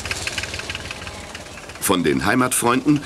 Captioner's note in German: Traktorgeräusche